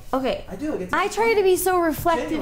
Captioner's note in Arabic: يتحدث مكتوما